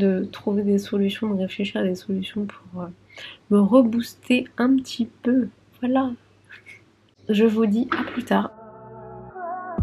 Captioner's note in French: rires